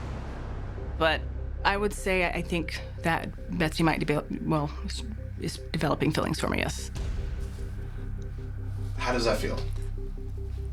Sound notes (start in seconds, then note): none